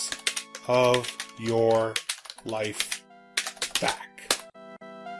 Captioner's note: typing on keyboard